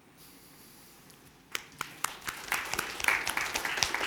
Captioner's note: applause